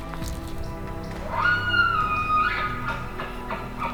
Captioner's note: caller bugling